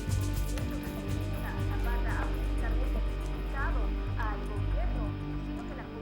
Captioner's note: reporter continues in Spanish